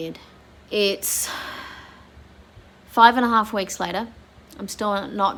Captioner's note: sighs